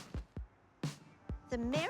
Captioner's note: thud